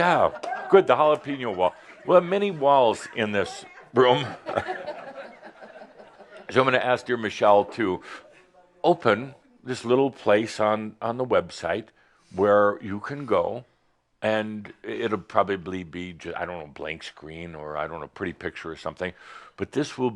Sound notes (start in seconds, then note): 4.3 more chuckles